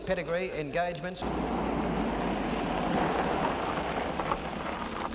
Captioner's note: car rumbling